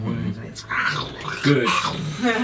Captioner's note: snarling noises